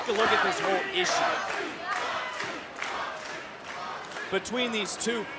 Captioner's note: crowd chants "roxy"